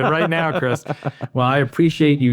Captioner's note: laughs